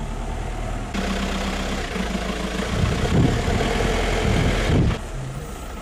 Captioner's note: vehicle engine rumbles